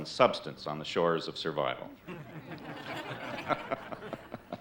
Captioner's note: all laughing